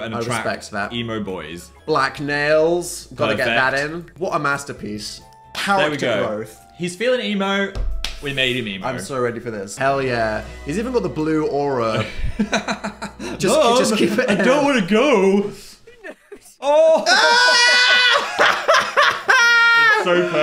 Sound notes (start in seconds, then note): 11.9 Phil laughs; 17.6 everyone laughs